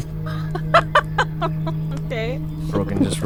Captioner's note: laughing